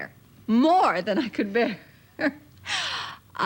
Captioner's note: laughs